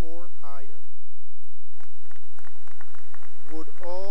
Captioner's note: cheering and applause